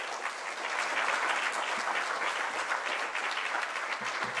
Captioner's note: applause